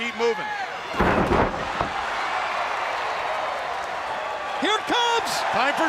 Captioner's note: crowd cheering